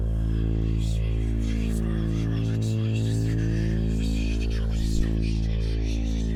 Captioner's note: whispering